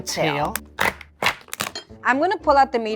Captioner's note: lobster shell cracking